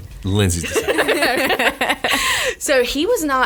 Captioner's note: laughs